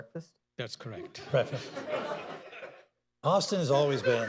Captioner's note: laughter